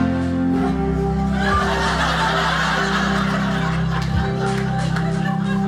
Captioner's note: audience laughing